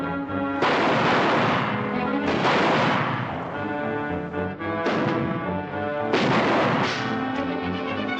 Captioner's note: gunshots - tense music